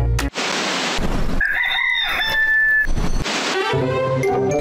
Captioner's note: rooster singing